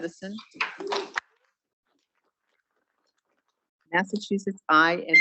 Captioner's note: students clapping